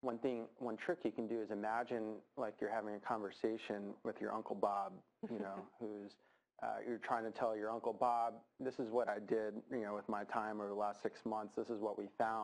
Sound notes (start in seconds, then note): 5.2 laughs